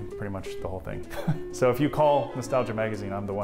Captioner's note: laugh